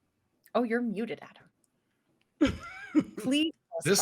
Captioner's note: laughs